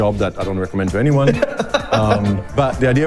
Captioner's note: laughs